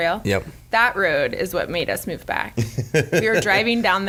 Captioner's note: laughs